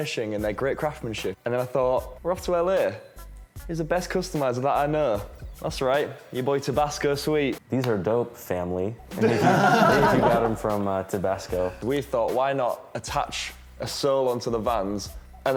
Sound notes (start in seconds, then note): 9.2 laughing